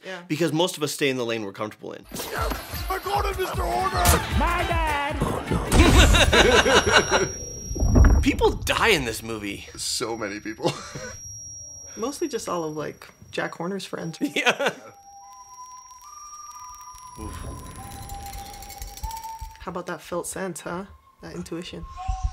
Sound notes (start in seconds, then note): 14.0 whistling; 14.9 static cracking